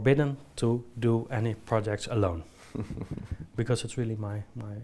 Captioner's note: chuckles